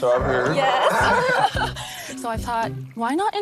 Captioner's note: laughing